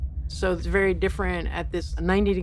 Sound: none

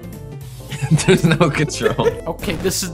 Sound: laughing

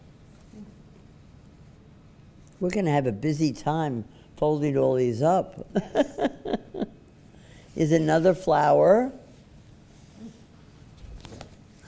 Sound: laughs

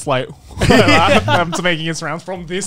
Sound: everyone laughs

